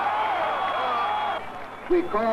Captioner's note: crowd shouts